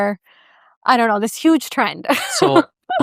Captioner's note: laughs